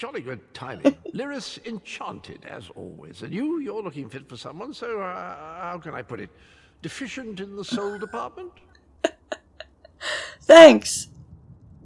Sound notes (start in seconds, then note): 7.6 laughs